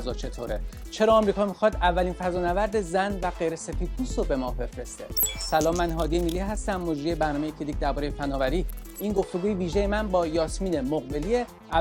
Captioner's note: speaking in Persian